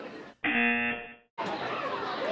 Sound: buzzer

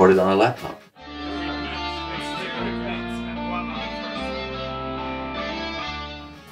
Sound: talking in the studio

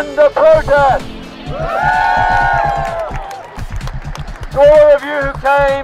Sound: cheering

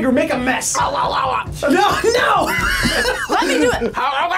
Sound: laughs

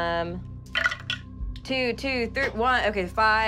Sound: rolling dice

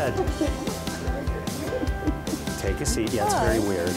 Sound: people chattering

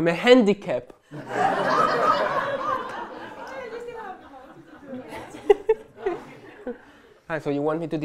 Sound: laughter

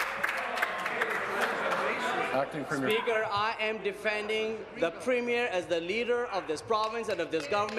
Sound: applause

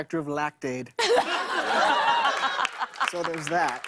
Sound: laughter

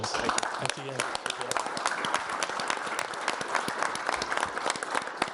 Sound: audience applauding

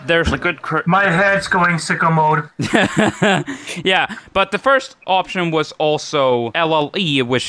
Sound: laughs

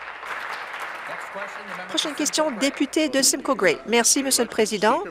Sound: applause

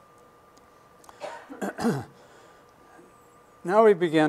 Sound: clears throat

